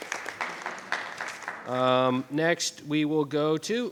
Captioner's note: attendees applauding